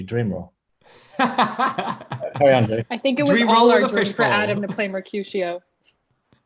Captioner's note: laughs